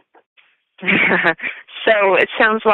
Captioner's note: chuckle